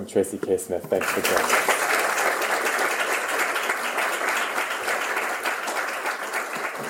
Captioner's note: applause